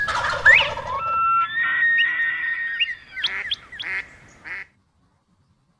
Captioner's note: bird calls